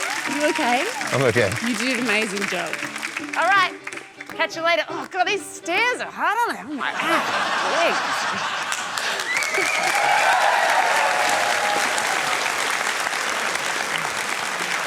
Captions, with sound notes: Are you OK? I'm OK. You did an amazing job. Alright. Catch you later. Oh, God. These stairs are hard on my legs. (CHEERING, APPLAUSE)